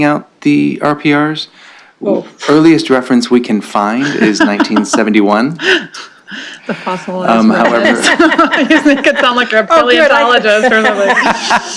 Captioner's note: laughter